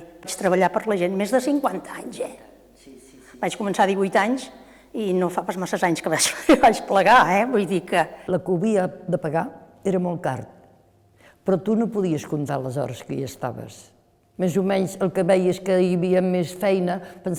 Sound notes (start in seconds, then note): 6.2 laughs